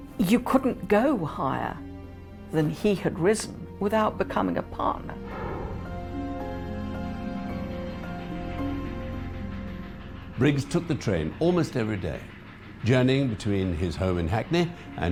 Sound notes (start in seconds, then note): 5.7 dramatic music; 5.7 train chugging